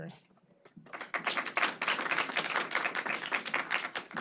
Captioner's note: audience claps